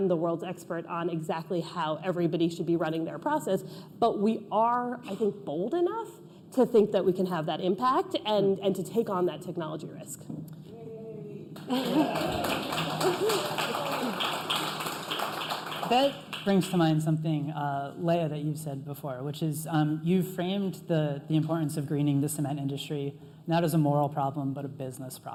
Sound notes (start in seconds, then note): 16.4 applause